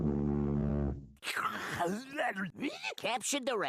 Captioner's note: salivating